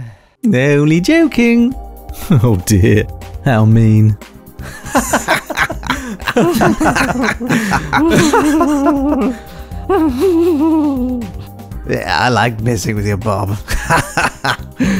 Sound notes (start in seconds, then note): 4.6 presenter and Customer laughing, nervously laughing; 4.6 laughing; 8.5 nervously laughing on his own; 13.7 laughing